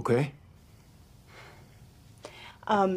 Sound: exhales softly

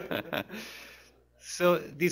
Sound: laughter; laughs

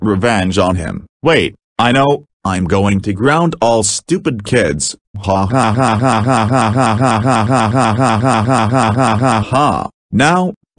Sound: laughing

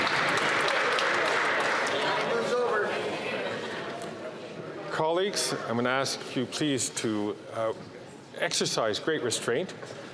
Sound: applause

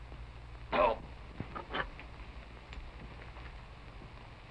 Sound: clearing throat

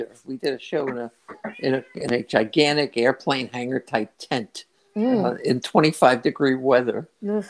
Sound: meow

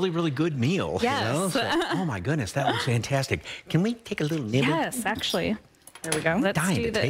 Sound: laughter

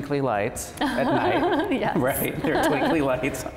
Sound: laughs

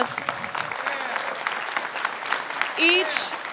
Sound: applause

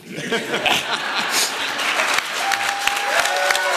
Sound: laughter; applause and cheers

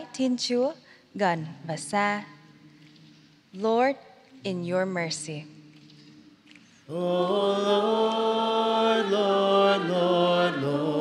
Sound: speaking in vietnamese

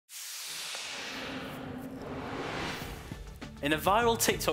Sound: whooshing

